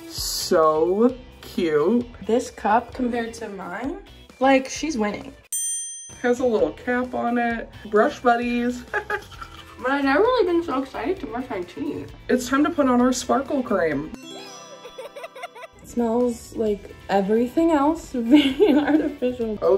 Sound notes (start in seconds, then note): 8.9 laughs; 14.4 baby laughs; 18.8 laughs